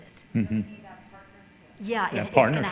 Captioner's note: person speaking off mic